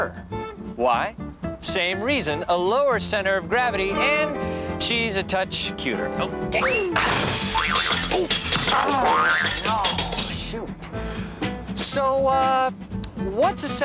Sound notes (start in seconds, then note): 6.6 crashing